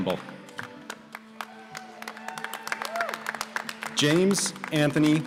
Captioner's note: applause